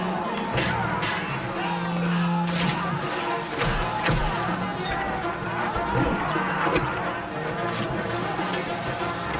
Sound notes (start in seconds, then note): 2.3 splash; 4.1 thuds; 4.8 wooshing; 7.5 splash